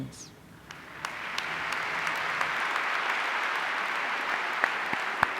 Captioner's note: audience applauding